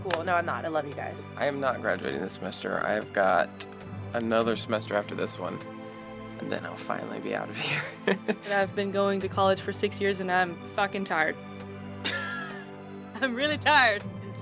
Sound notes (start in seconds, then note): 7.6 laughs; 12.0 giggles